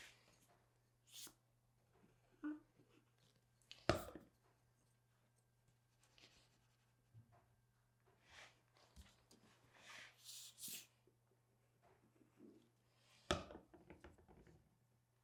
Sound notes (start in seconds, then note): none